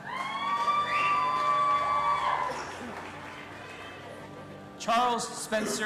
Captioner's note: audience applauding and cheering